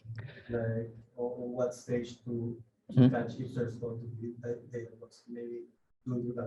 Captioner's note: faintly speaks